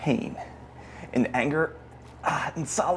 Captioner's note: straining